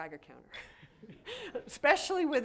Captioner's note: laughter